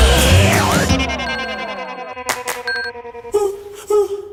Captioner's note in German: Benachrichtigung ertönt